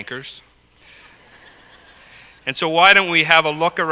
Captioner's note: laugh